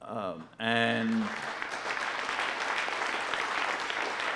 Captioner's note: audience applauding